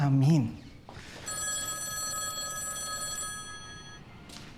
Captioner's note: phone ringing